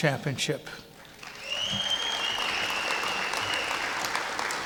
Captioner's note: clapping